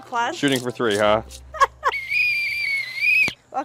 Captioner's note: whistle